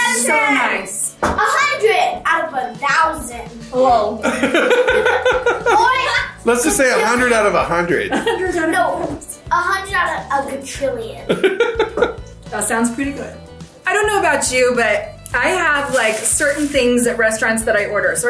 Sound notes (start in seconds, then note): 4.2 laughing; 11.3 laughing